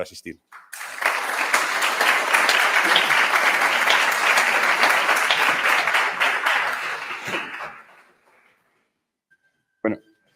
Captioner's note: applause